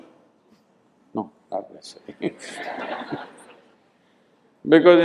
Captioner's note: laughter